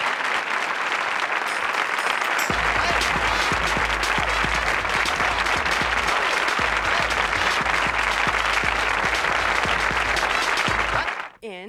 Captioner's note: applause